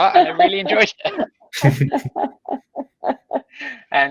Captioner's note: laughing